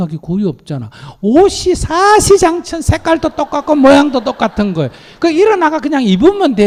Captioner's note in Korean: 청중 웃음